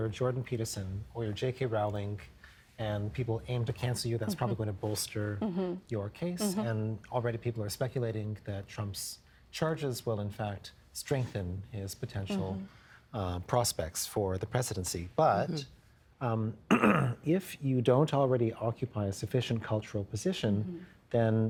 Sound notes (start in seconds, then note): 16.7 clearing throat